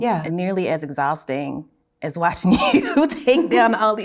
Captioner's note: laughs